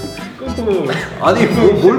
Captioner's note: verge of crying